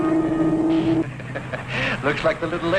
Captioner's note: Hillman chuckling